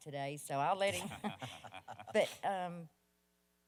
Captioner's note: chuckles